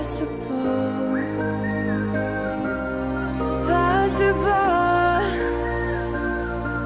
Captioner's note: whistling